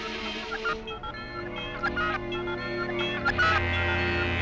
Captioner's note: equipment beeping; soft, tense music